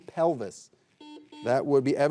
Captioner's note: buzzer buzzing